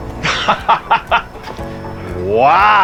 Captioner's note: laughing